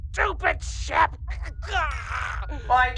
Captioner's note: groan